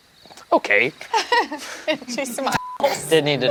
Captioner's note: group laughs